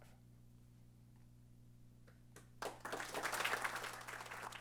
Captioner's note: applause